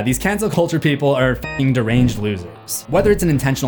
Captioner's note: beep